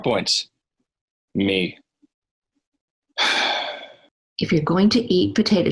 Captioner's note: sighs